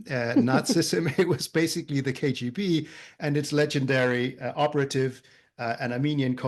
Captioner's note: laugh